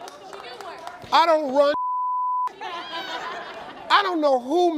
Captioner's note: beep